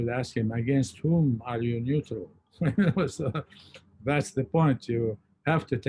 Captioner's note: laughs